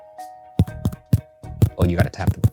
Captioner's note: mic tapping